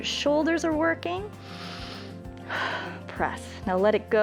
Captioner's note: inhales and exhales